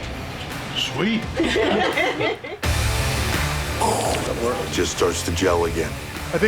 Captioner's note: laugh